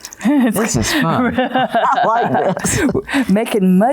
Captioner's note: laughter